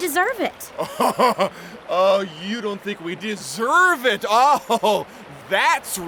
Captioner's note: laughs